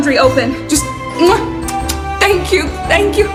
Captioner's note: blowing kisses